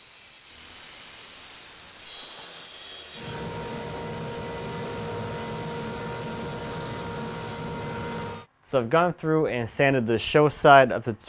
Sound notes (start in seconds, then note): 0.2 whistling of blades; 3.1 roaring of the planner